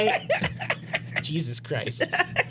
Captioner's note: laughing